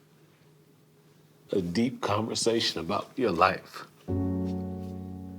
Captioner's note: voice breaking